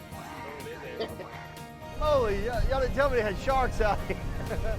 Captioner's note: upbeat country music; men chatting